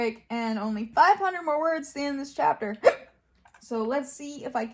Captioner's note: hiccups